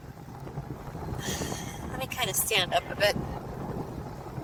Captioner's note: sighs